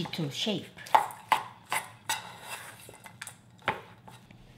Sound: spoon tapping

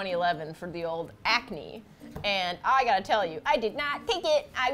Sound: sing-song

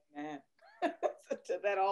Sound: laughter

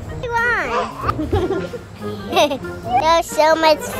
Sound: laughing

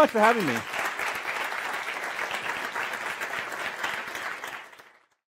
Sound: applause

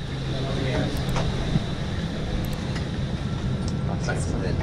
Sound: background chatter

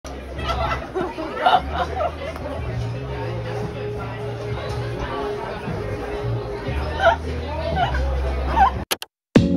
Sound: laughing

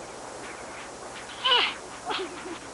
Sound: children grunting

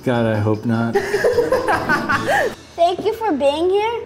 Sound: laughing off camera

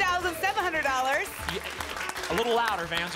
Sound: applause

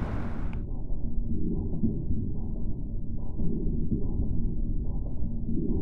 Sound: muffled mechanical sounds

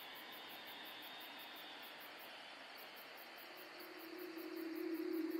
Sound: insects chirping; gentle music

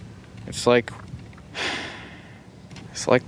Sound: sigh

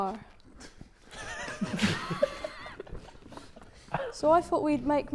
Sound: Sidemen laughing

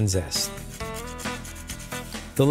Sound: grating

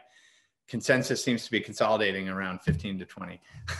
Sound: laughs

